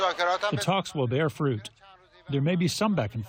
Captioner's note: through translator